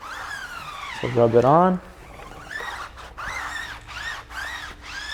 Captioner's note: tire squeaking